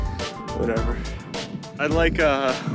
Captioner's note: panting